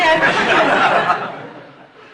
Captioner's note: Shri Mataji burts into laughter; laughter